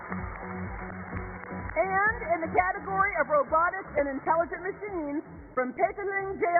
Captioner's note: applause